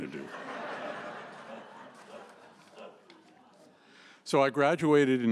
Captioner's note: laughter